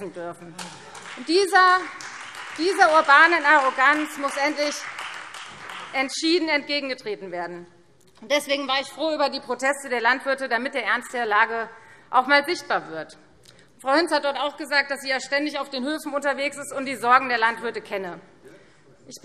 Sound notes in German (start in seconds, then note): 0.5 Beifall Freie Demokraten